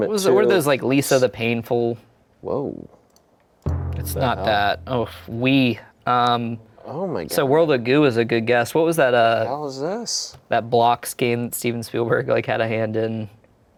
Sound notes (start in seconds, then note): none